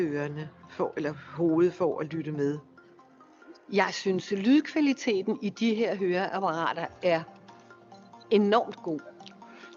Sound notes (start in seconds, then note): 3.9 woman speaks foreign language